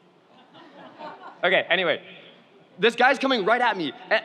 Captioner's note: audience laughs